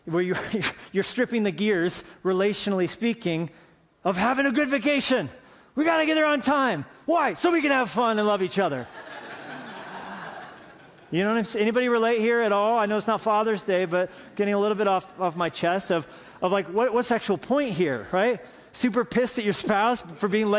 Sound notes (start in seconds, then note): 8.8 laughter